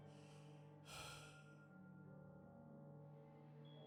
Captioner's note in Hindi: गहरी सांस लेने की आवाज़